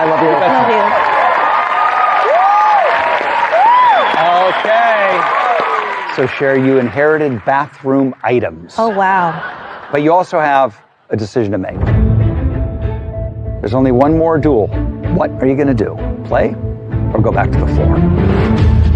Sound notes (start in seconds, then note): 2.7 audience whooping and cheering; 11.8 dramatic music